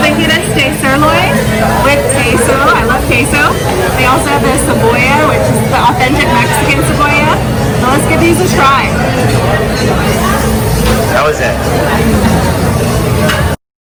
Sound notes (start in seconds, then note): 10.0 restaurant crowd talking